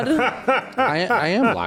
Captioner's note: laughing